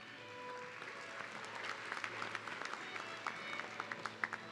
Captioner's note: audience clapping